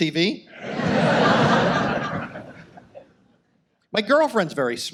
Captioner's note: audience laughs